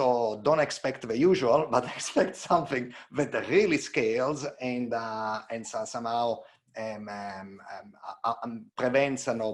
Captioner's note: chuckles